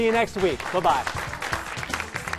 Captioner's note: applause